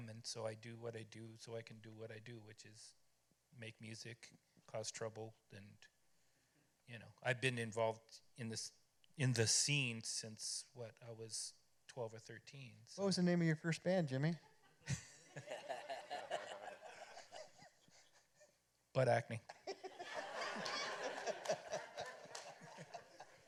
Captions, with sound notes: and so I do what I do so I can do what I do, which is make music, cause trouble. I've been involved in the scene since what? I was 12 or 13. What was the name of your first band, Jimmy? [chuckles] Butt Acne. [laughter]